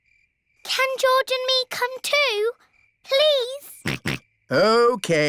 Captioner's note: snorts